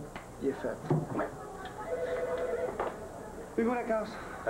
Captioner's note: Le téléphone sonne